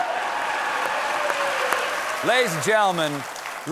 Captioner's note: applause